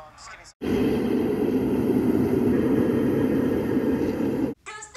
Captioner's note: wind blowing